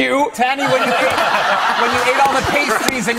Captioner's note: laughter